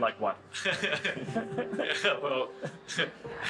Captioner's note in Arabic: يضحك